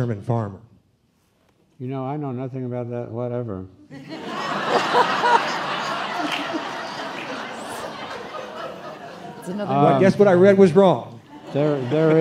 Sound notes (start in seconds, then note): 4.0 laughing